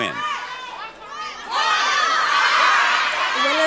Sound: audience yelling

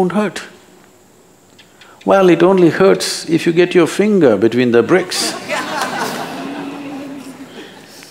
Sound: laughter

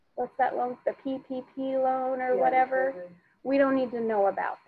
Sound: speaking faintly

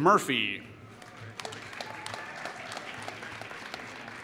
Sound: applause

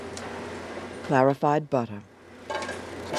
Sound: voiceover

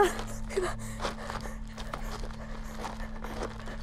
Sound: panting

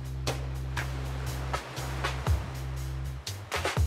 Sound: waves crashing

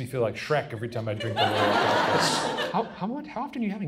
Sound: audience laughs

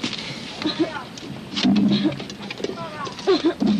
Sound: sickle hits bamboo door

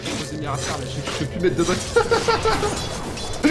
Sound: laughs

